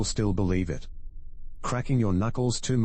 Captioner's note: electrical noise